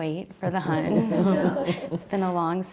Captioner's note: laughter